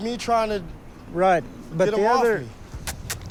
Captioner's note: clicking tongue